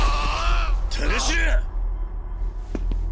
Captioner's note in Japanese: 叫び声; うめき声